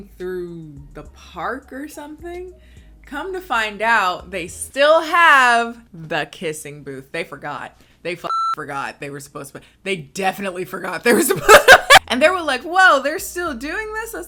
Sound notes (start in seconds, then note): 8.3 beep